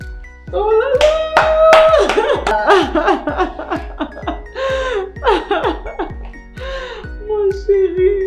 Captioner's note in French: Applaudissements et Rires